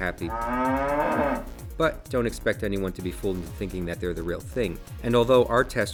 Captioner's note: cow moos